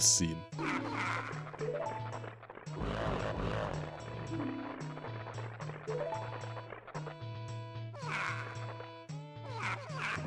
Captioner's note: skeletal bickering sounds